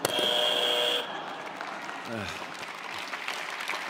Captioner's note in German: Der Buzzer summt